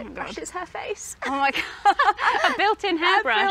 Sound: both laugh

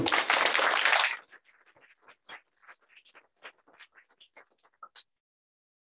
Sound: applause

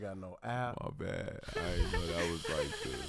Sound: laughs

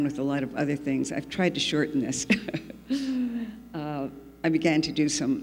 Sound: laughs

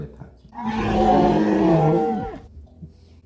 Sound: growls

